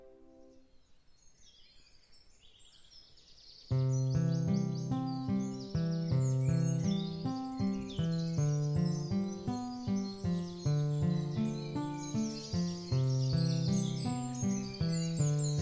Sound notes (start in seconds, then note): 1.4 birds singing; 3.7 soft music